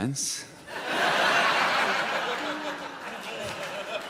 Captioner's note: audience laughs